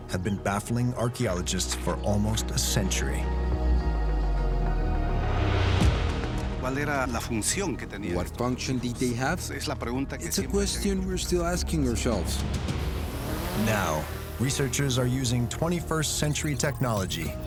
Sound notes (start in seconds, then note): 5.7 speaking Spanish